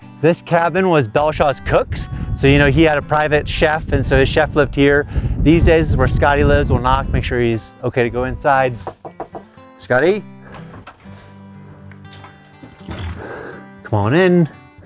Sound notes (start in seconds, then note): 8.8 knocking